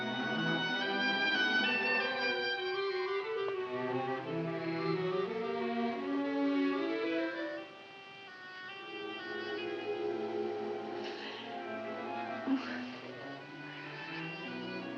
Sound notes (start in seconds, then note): 11.4 moans